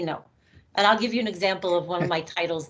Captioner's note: laughing